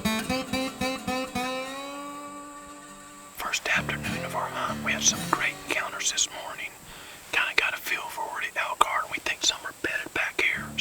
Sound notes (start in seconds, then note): 2.8 whispering